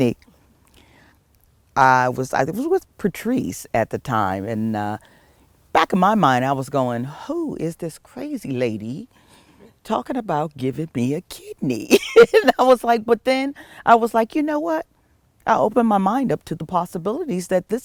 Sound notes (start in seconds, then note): 12.0 laugh